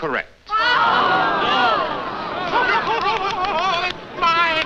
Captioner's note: crowd exclaiming; Waters laughing